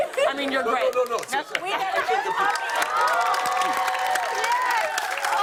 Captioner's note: cheers and applause